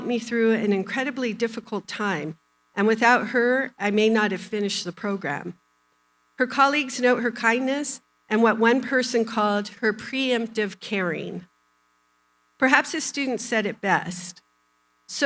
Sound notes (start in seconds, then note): none